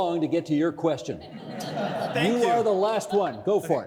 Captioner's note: audience laughing